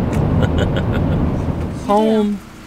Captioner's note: chuckling